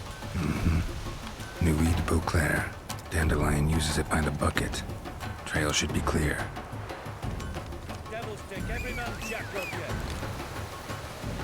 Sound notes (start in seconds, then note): 8.7 whistle